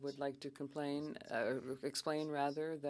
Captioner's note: speaking French